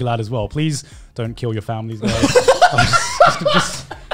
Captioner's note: laughing